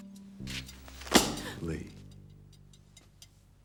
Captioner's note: slam